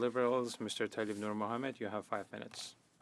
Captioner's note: speaking French